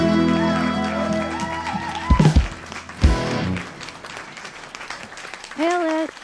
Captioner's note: audience applauding and cheering